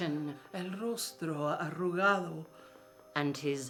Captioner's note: speaking in foreign language